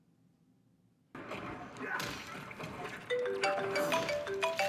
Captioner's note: video game fight sounds; ringing